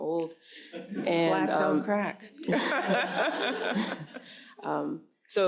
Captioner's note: laughs